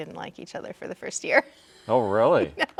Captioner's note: laughing